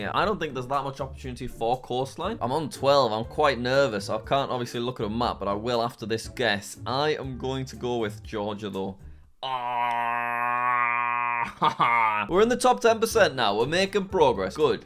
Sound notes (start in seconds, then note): 9.4 groaning